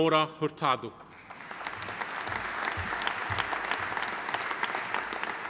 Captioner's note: audience applauding